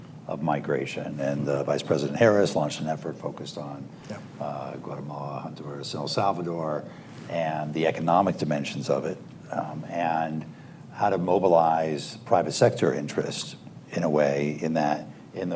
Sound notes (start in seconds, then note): none